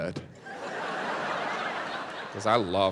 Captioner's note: audience laughs